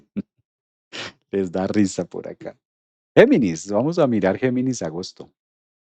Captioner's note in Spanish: resoplido